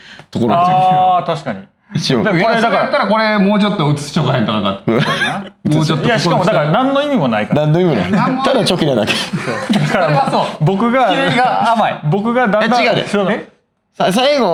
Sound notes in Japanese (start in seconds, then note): 4.8 笑い; 7.6 笑い